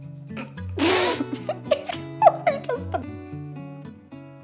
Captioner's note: can’t stop laughing